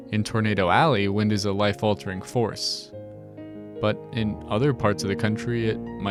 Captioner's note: none